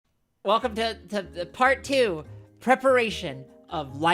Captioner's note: none